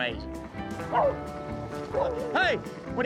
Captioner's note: dogs barking